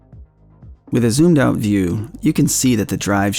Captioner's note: voice cracks twice